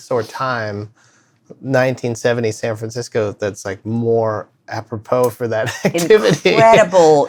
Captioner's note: laughter